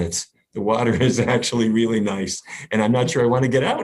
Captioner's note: laughs